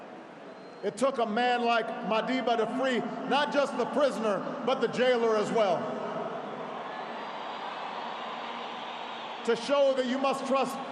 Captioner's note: applause